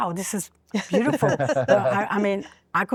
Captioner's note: laughter